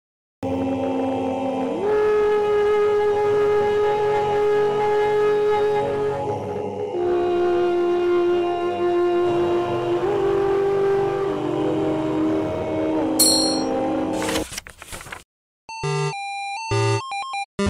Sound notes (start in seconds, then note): 13.1 beep; 14.1 sound of page turning; 16.6 low quality 8-bit music